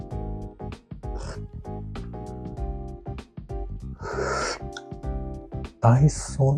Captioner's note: slurps